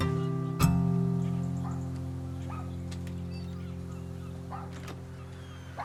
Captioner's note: dog barking